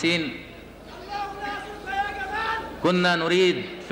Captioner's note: screaming in the audience